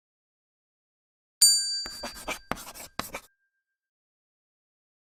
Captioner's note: bell dings